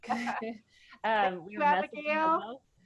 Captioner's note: both laughing